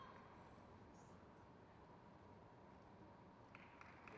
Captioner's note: crowd claps